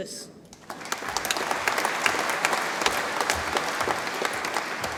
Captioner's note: audience applauds